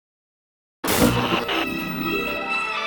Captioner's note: Static; upbeat instrumental music